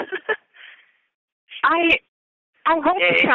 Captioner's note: chuckle